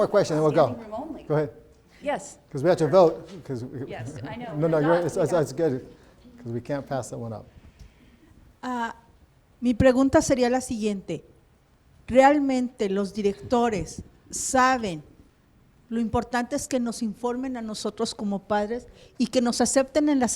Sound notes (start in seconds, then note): 9.1 foreign language